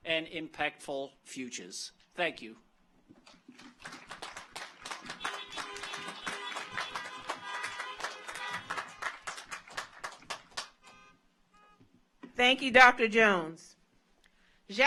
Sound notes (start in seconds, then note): 3.1 car horns honking; 3.5 audience applauds